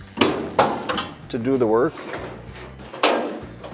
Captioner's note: car hood clanking